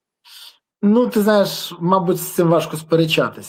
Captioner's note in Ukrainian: сопіння